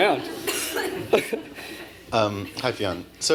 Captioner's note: laughter